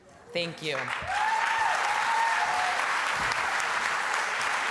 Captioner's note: cheering and applause